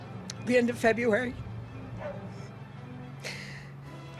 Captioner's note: sighs